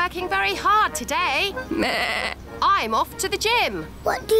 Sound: bleats

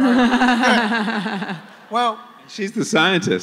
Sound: laughter

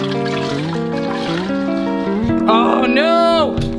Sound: liquid pouring; dramatic guitar music

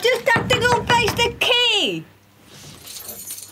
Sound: knocking

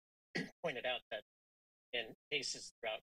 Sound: clears throat

